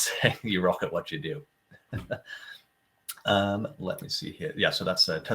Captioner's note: laughing